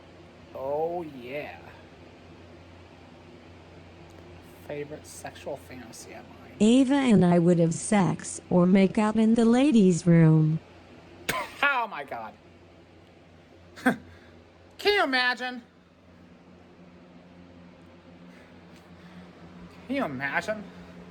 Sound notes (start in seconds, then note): 11.2 laughs; 13.8 laughs